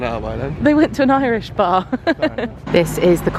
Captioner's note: laughs